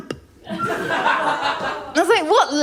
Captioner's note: laughter